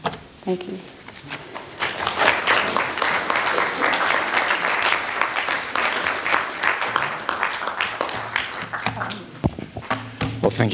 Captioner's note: clapping